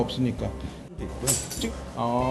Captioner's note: clink!